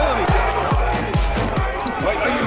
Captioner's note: group cheers